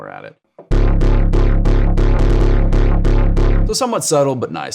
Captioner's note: electronic tones sounding